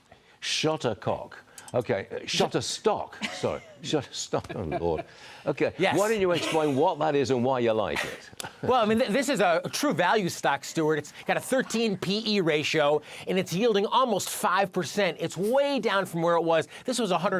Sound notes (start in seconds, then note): 8.0 laughter